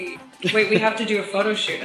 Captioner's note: chuckles